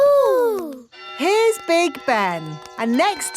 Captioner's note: clock chimes